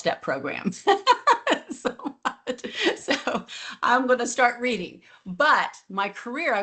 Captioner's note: laughs